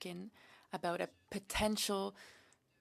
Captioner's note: speaking French